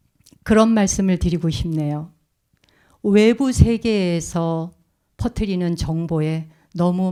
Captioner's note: speaking in Korean